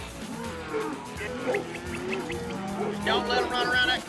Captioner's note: cattle mooing; dog barking